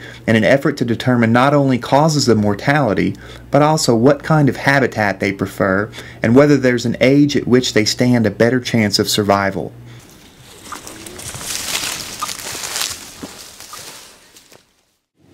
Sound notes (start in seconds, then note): 11.6 leaves rustling